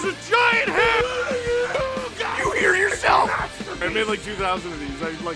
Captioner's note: Harry potter screaming; screaming